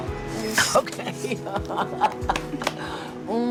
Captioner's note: laughs